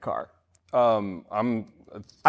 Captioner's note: stammering